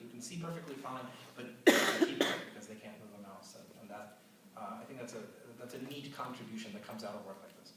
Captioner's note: audience cough